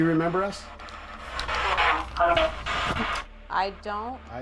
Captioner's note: spirit box voice